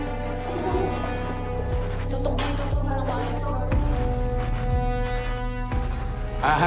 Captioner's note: camera shutters clicking; media clamoring